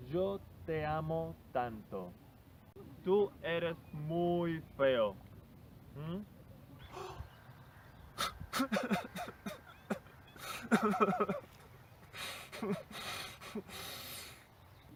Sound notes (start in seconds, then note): 8.5 he cries